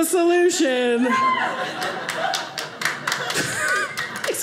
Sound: audience laughing

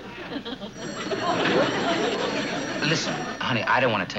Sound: phone rings

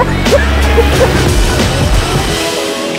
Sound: laughing

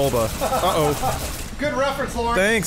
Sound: laughing

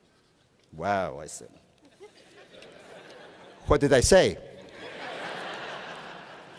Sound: laughter

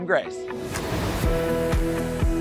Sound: graphics whooshing; bright music

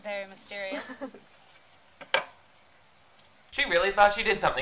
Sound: woman laughs

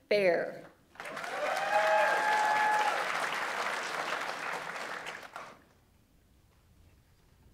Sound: audience applauds; audience members cheer

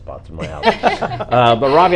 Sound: all laugh

